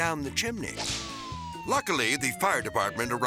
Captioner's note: sirens blaring